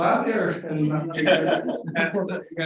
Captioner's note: audience laughing